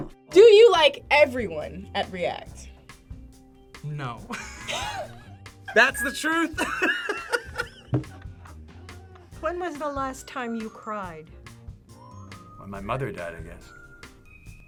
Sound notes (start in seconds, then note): 5.7 both laugh; 6.5 laughs